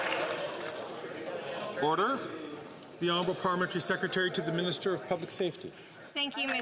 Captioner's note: some Applause